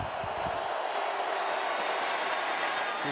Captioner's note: scuffling